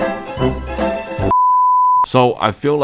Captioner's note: beep